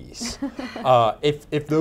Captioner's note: laughing